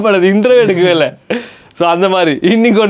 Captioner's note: laughs